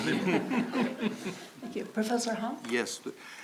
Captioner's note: laughing